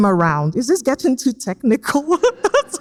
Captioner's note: laughs